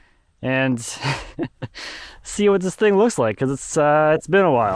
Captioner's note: laughing